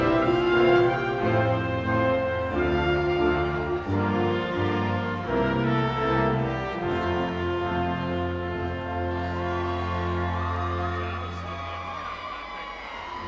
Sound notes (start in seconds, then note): 9.0 audience cheering